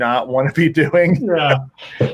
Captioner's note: chuckles